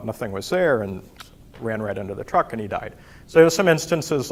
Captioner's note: clicks tongue